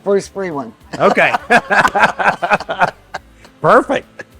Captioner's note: laughs